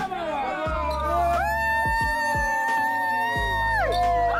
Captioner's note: loud cheering